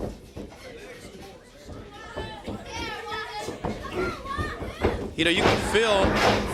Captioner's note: crowd chatter